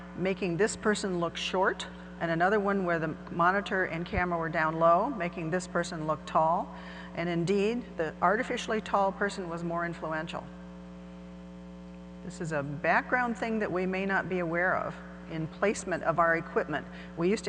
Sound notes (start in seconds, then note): none